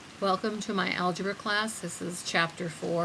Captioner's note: voiceover